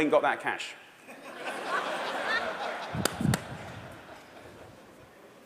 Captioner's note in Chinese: 笑聲